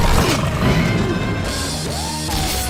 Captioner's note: screeching roar